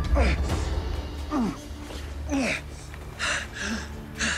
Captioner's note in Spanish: Sonidos de esfuerzo